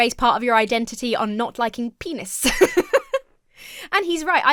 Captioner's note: laughs